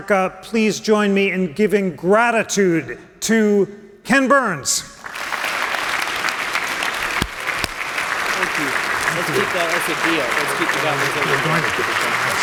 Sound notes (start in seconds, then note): 5.0 applause